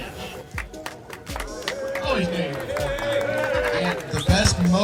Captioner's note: crowd clapping